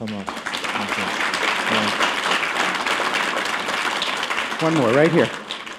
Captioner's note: applause